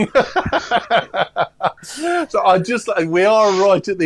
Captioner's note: laughter